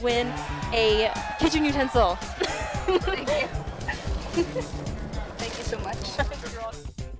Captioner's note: applause